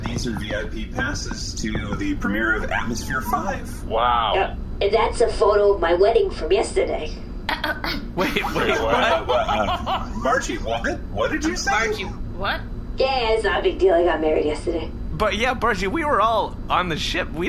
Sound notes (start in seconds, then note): 8.2 coughs and sputters, then laughs